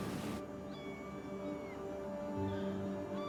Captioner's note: seabirds calling